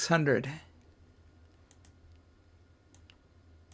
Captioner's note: silence